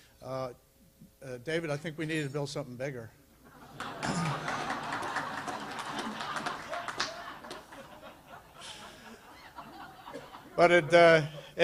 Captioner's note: laughter